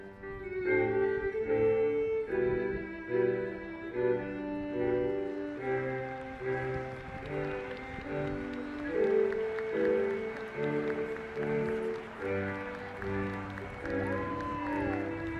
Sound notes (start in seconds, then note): 0.1 graduation music begins; 6.8 audience applauds